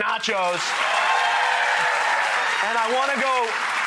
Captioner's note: excited applause